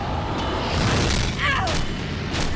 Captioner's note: Riley grunts